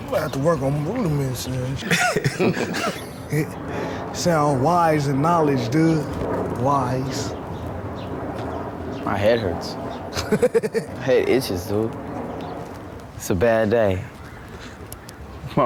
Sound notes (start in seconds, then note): 1.4 laughing; 10.1 laughs